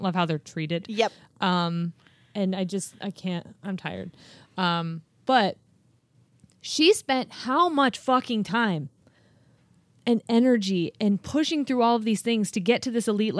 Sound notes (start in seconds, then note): none